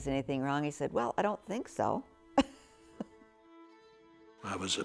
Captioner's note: laughs